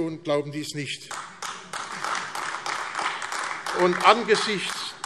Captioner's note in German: Beifall AfD